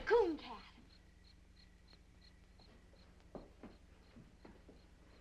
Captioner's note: insects chirping